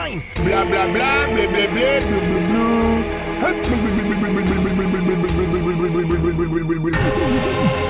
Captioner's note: reporter noises